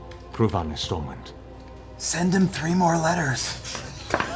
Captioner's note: whispers